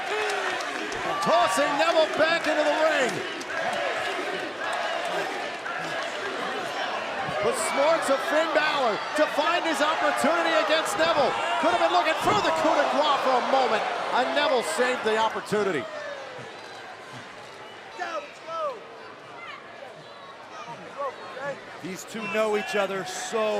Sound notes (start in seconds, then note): 0.0 cheers & applause; 4.9 fans chanting